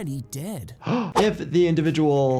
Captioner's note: sighs